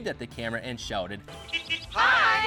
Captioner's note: car hooting